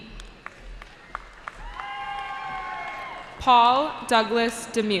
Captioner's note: cheering